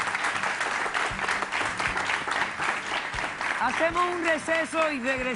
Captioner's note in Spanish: Aplausos